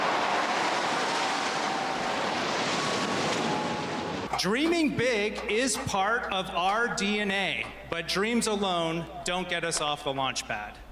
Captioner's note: cheering